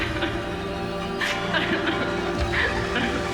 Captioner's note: crying